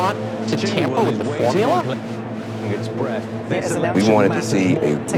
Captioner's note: people chattering